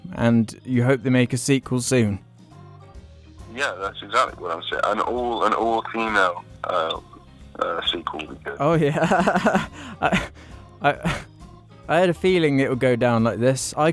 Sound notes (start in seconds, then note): 8.8 laughter